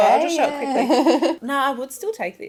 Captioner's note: laughs